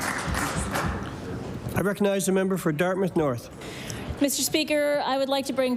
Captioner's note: applause